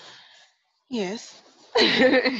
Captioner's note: laughs